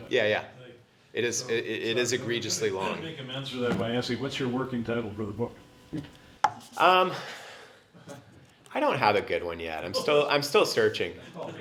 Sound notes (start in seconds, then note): 3.2 cough